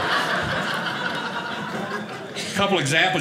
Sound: audience laughing

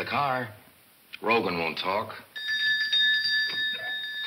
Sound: bell rings

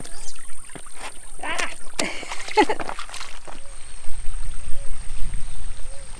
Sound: laughs

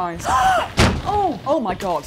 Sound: smack

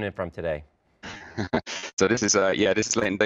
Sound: guy chuckles

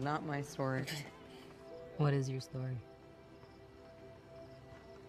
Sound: laughs

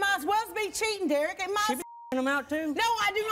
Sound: beeping

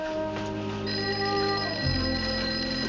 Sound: phone ringing

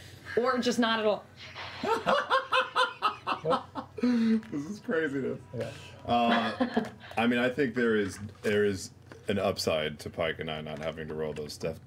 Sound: laughs

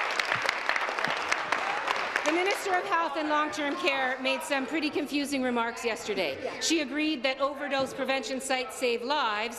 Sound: some Applause

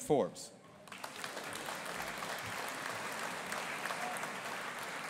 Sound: audience applauding

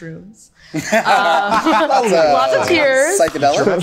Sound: group laughing

